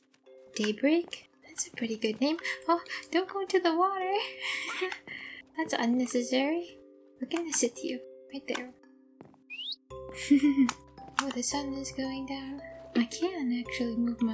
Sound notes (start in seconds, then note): 4.6 laughter; 9.4 daybreak chirps; 10.2 giggle